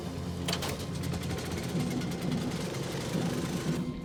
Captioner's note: compressor starts